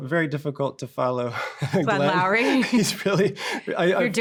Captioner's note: chuckles